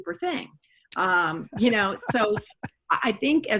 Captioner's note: laughs